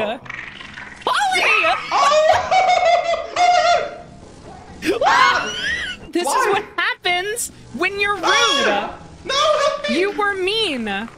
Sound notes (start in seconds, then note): 1.1 others scream and laugh; 5.0 scream; 9.2 screams